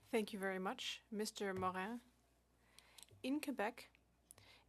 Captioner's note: speaking French